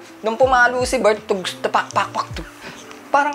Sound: mimicking random drum beats

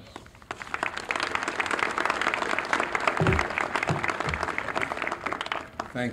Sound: applause

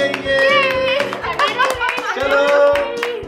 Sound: clapping

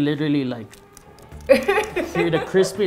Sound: crunching; laughing

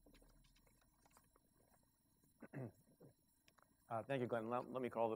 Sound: clears throat

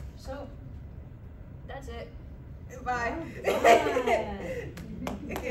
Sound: laughter, clapping

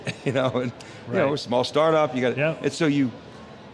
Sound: laughing

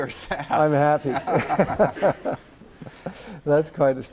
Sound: laughter

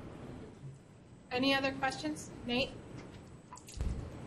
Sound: voiceover

